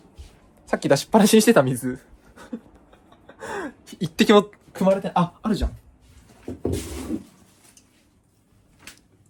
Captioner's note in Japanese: 笑い